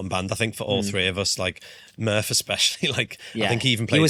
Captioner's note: chuckles